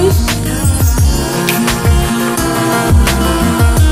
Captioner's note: magical sparkling; relaxed singing